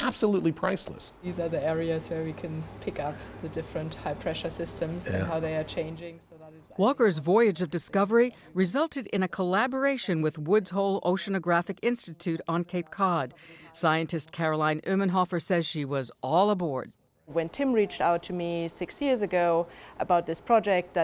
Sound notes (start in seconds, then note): 6.7 voice-over